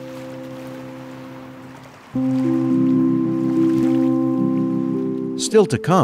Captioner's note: waves sloshing; soft gentle music